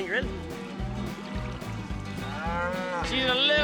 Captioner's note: cow mooing